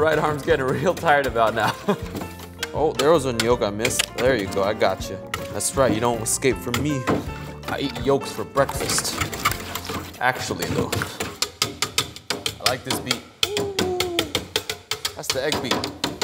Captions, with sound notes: Right arm's getting real tired about now. (chuckles) Oh, there was a yolk a missed. Through you go, I got you. That's right, you don't scape from me. I eat yolks for breakfast. Actually, though. (whisk thudding) I like this beat. (whisk thudding) Whoo! That's the egg beat.